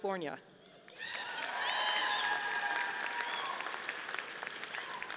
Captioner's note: audience applauding